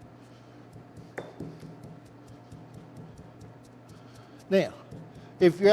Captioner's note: knife thudding